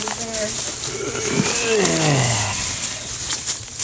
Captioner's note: groans